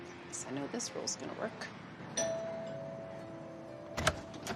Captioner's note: doorbell chimes